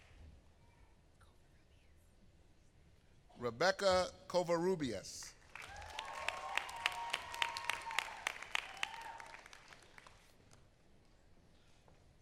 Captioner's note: applause